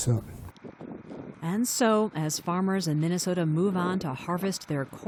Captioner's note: voice-over